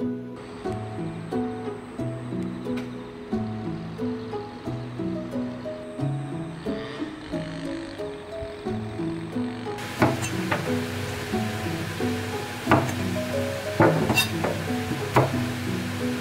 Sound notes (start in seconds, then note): 6.9 gentle breeze blowing